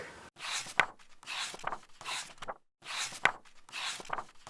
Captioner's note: pages turning